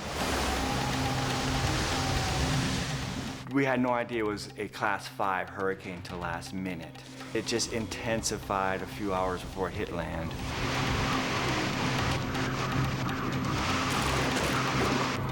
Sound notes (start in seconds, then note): 0.0 wind blowing; 10.8 wind blowing